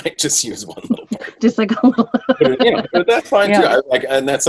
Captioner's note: laughter